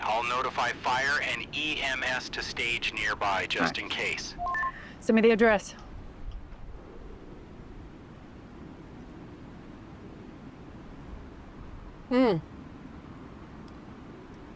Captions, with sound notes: I'll notify fire and EMS to stage nearby just in case. (radio beeps) - Send me the address.